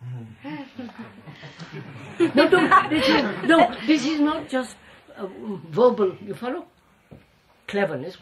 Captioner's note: laughter